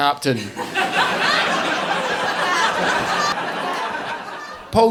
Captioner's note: audience laughing